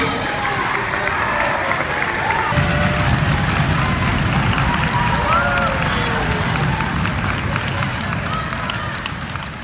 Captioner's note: clapping and cheering